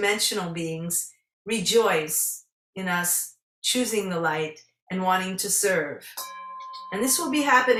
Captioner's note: singing Bowl rings